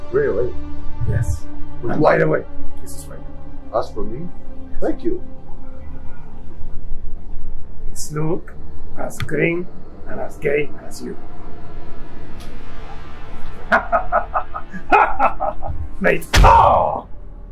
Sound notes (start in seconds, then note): 13.6 Billy Butcher cackles; 16.5 grunts